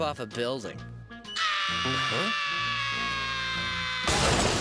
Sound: SpongeBob screaming

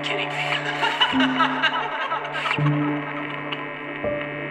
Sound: maniacal laughing

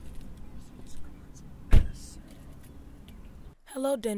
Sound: whispering

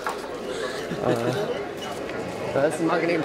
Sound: laughing

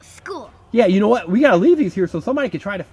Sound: voiceover

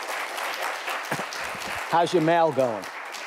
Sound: audience applauds

